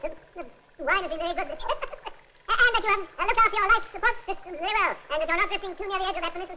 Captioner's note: tape fast forwarding